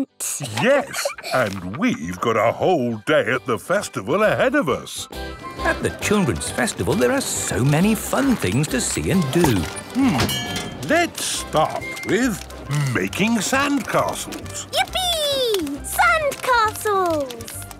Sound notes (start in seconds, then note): 4.7 festival buzz and music